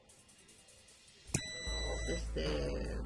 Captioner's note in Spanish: sonido: piiiiii